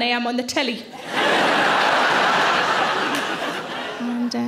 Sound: audience laughing

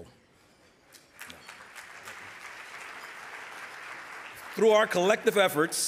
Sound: audience applauding

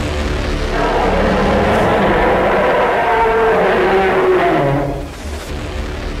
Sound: Kyuubi is roaring

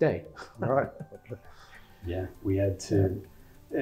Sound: laugh

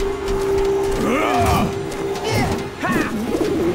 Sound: grunting

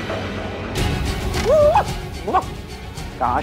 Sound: barks

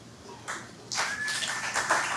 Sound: audience clapping

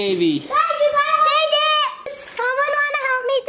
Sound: children shouting

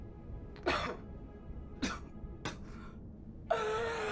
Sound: Ashley coughs

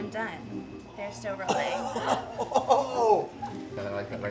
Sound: laughing

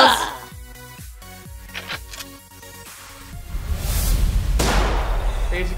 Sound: ammunition racking

